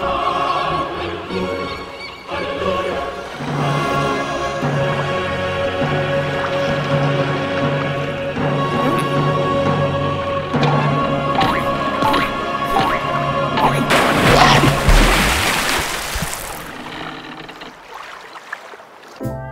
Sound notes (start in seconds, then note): 14.2 large chomping sound; 15.3 water splash; 17.1 boat creaking